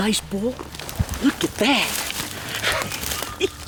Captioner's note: laughs